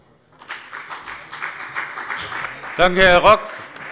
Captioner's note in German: Beifall bei der FDP